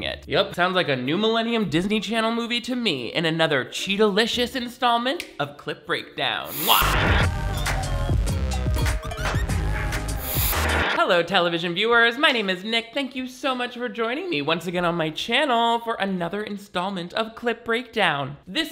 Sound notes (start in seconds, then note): 6.4 upbeat pop music; 6.5 static crackles; 10.2 static crackles